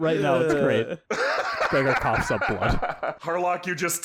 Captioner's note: howls with laughter